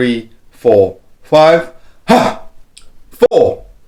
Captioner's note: exhales